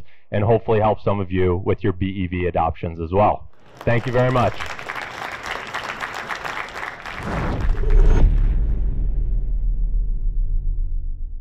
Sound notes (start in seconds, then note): 3.5 audience applauding